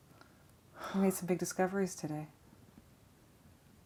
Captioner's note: Nathan sighs